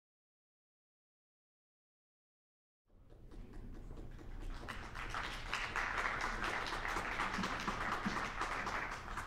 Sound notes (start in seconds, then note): 5.0 audience applauding